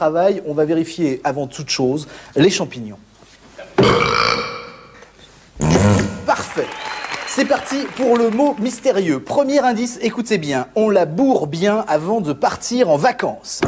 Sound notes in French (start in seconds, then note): 3.7 bruit de rot; 5.6 bruit de pet